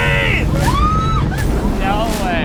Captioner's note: cheering